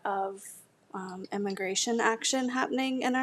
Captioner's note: none